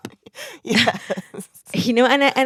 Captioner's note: laughter